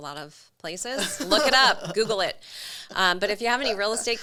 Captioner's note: laughs